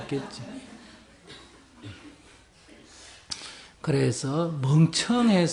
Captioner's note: audience Laughter